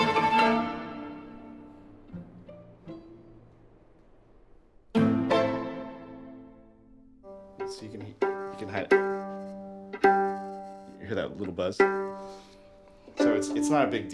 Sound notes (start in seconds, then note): 3.5 music stops; 7.1 string plucking, buzzing